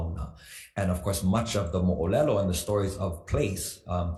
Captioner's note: speaks foreign language